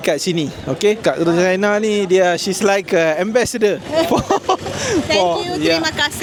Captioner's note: laugh